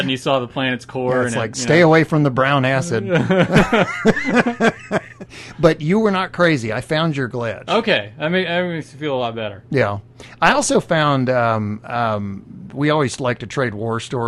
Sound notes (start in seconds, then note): 2.9 both laughing... a lot